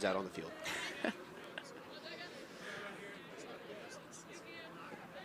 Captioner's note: chuckles